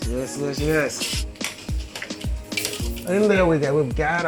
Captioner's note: metal clinking